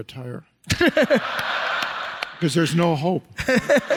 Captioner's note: audience laughs